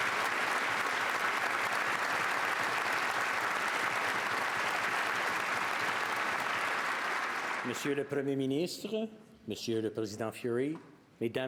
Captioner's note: speaking French